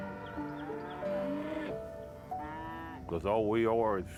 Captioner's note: cows lowing; birds chirping